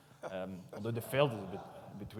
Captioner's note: audience laughs